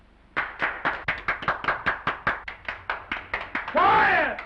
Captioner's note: prisoners applauding